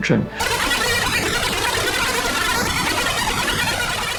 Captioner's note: radio squawking